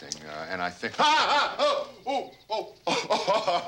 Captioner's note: Bill screams